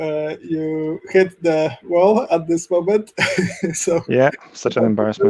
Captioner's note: laughs